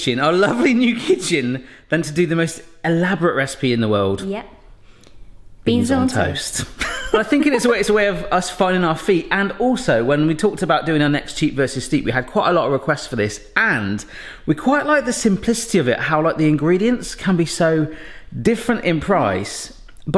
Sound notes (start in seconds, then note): 6.6 laughing